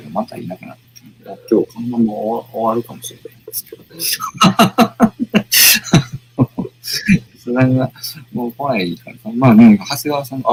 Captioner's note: laughs